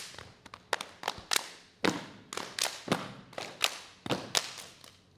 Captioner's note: clapping and stepping